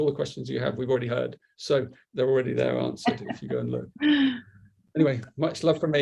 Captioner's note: laughter